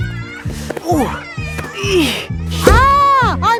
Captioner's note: grunting